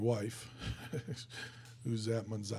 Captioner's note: chuckling